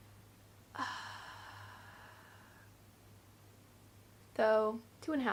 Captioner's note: elongated sigh